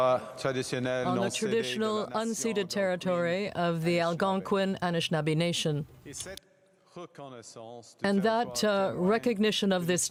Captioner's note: speaking French